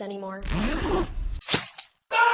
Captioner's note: unzip